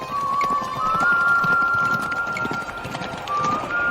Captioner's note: person whistling